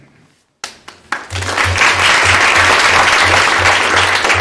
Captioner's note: applause